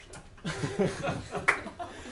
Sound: laughter

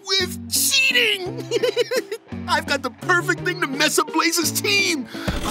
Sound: laughs

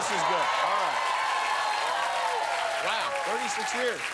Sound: cheers and applause

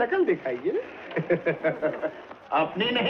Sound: laughing

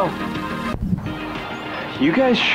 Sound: upbeat music; nature sounds

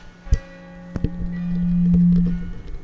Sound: microphone hums

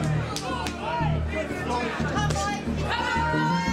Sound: crowd

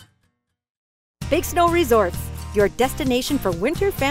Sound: voiceover

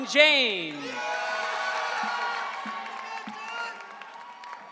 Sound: audience cheering

